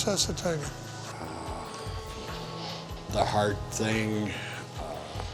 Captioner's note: sighing